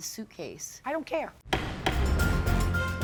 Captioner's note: gavel thumps; dramatic music